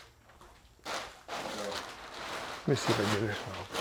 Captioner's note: papers rustling